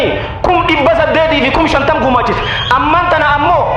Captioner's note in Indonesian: tertawa